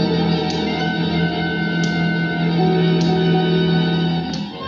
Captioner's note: light clicking